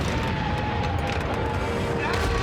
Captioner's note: booming; screaming